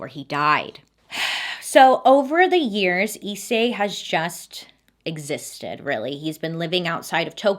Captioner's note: sighs